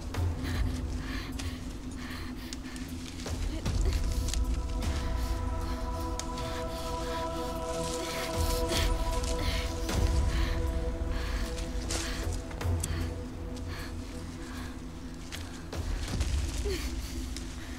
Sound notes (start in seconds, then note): 3.5 Googly panting